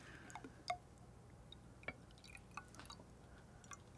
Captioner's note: water pouring